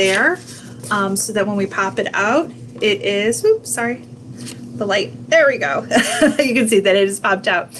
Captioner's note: chuckles